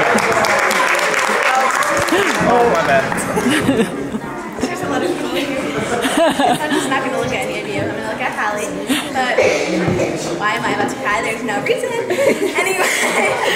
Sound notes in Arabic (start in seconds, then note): 0.0 يصفق الضيوف; 3.3 يضحك كريستال; 5.9 تضحك كريستال